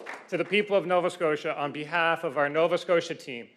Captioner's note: applause